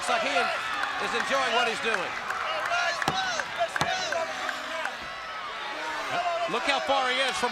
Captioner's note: crowd chatter